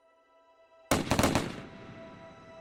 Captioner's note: rapid gunshots